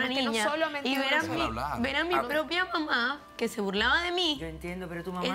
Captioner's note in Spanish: Hablan al unísono